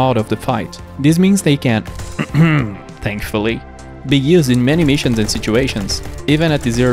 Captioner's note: cough cough thankfully